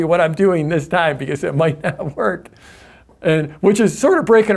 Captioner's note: laughs